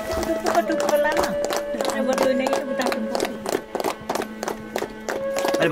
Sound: claps

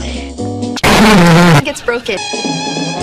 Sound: horn problem

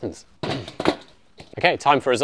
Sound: lid banging

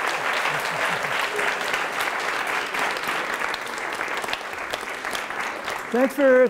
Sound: applause continues

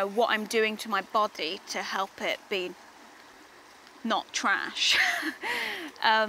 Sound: laughs

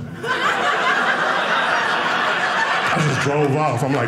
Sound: audience laughing

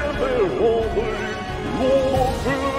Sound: otherworldy gibberish continues

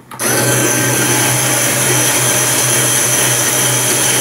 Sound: motor noise

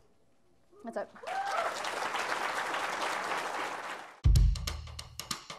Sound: applause

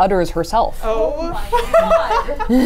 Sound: laughs

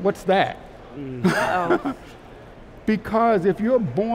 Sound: laughs

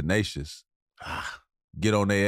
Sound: growls

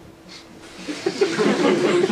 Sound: audience laughs

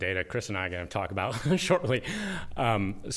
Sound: laughter

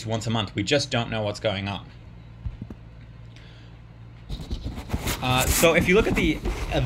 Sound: paper noises

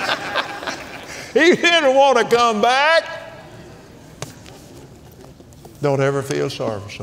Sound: laughs

